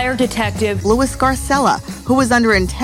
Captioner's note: voiceover